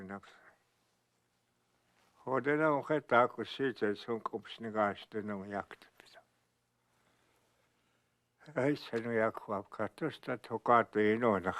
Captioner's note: speaking Dakota